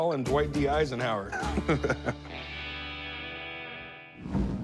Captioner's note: chuckles